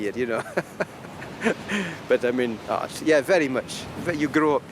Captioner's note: laughing